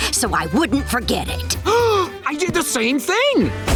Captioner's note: gasping